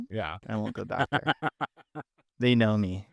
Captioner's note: laughing